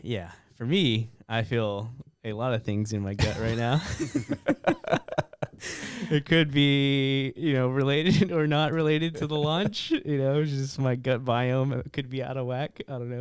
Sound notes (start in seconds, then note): 3.3 laughs